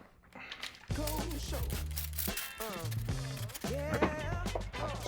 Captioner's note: spraying water